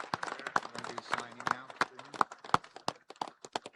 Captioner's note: applause